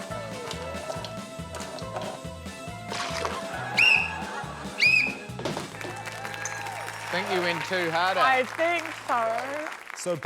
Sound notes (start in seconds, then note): 0.7 coffee dribbles; 4.7 whistle trills; 5.6 applause